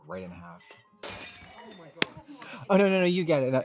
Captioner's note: casserole dish shatters